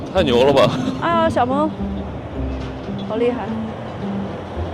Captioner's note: impressed